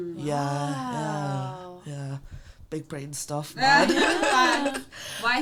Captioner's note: all laugh